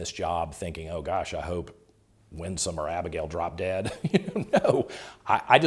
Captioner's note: chuckles